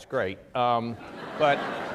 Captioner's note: laughter